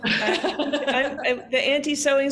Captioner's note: laughing; laughs